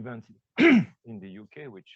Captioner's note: coughs